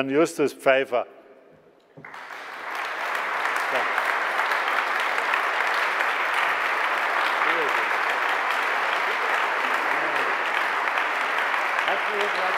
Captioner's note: Sustained applause from the CDU and the BÜNDNIS 90/DIE GRÜNEN